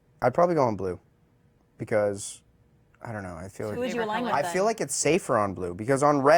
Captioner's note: laughter